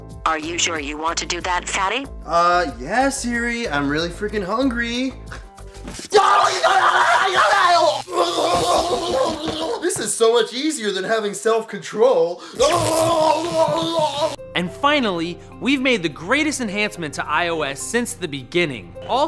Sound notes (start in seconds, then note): 6.0 screaming in pain; 8.0 groaning; 12.5 groaning